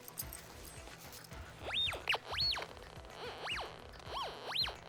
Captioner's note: electronic sweep